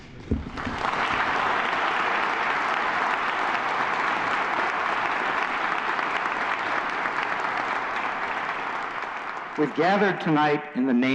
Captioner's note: applause